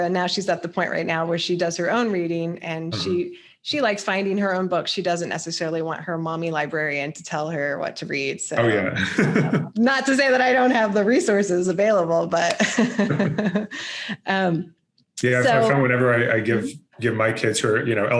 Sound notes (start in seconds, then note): 8.6 chuckles